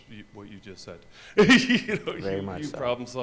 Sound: laughs

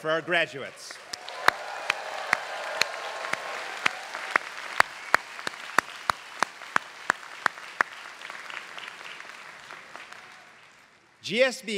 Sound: applause

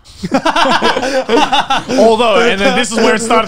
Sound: laughter

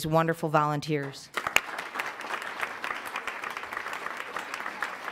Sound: applause

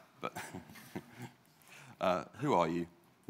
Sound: laughs

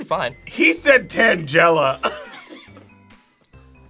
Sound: laughs

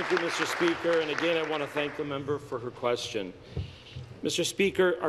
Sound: applause

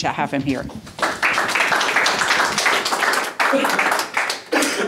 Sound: audience applause

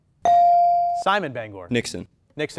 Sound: ding

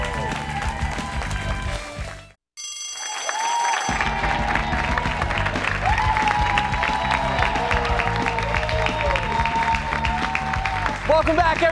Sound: bell rings; cheers and applause

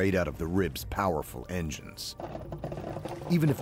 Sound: voiceover

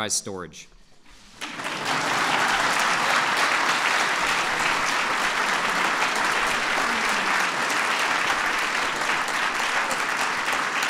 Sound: applause

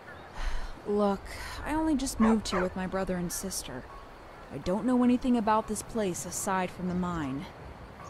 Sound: sigh

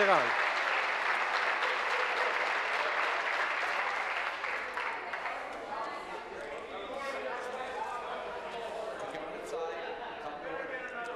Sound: applause

